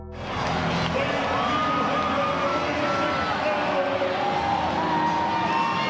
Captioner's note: dramatic music; crowd chattering; crowd cheering